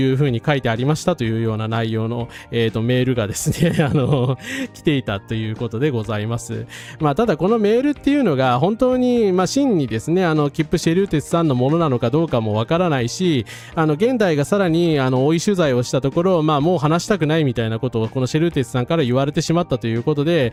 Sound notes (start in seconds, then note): 3.4 laughs